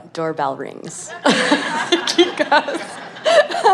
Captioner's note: laughter